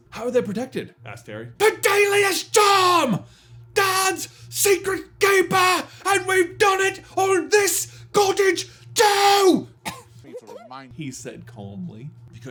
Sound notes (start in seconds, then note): 1.7 remaining lines screamed; 9.8 cough